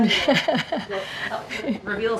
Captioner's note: laughs